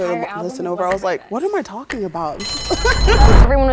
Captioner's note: laughs